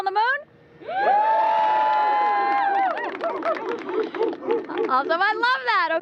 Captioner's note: cheers